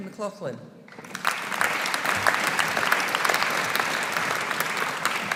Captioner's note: audience applauding